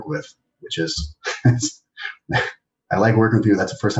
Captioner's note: laughs